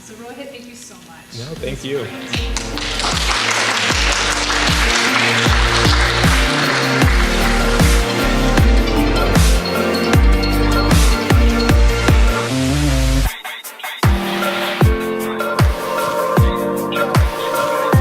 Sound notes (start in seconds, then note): 2.2 audience clapping; 7.6 upbeat music